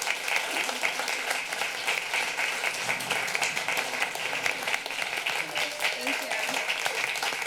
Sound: applause

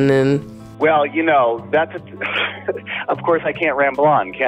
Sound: laughs

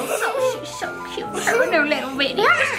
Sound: kids laughing

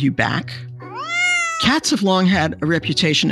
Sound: cat meowing

